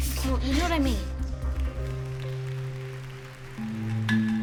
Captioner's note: applause